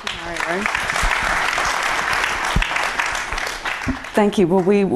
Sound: applause

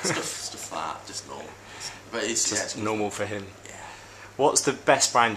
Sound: laughs

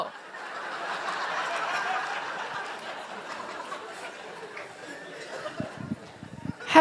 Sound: laughter

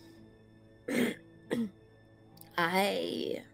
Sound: clears throat

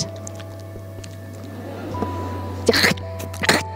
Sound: soft squelching; loud squelching; audience laughs

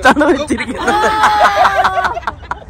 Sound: laughing

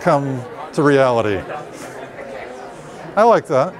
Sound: chatter

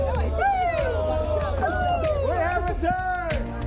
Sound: cheering

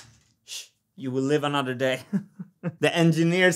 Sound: chuckles

